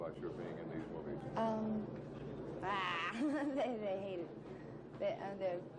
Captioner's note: laughs